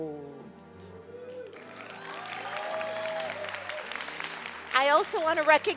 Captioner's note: applause and cheering